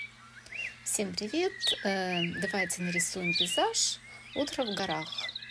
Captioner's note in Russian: Пение птиц